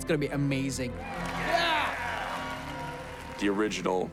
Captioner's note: audience cheering